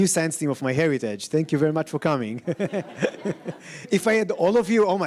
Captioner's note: laughs